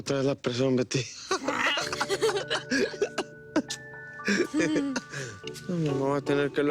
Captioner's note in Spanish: Risas